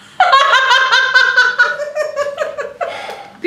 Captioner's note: laughs